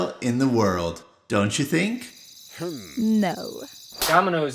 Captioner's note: crickets